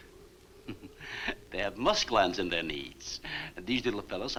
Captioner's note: chuckles